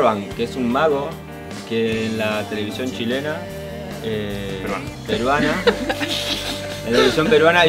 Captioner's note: laughs